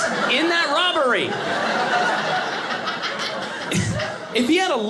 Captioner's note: audience laughing